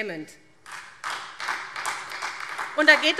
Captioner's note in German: Beifall SPD